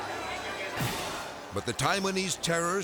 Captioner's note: politicians clamoring; thrilling music; palm thumps